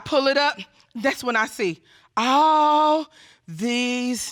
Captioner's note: none